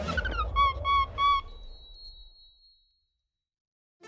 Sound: monkey cheers

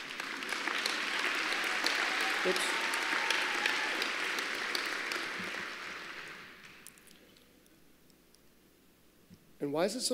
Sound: applause

